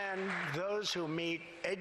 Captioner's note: applause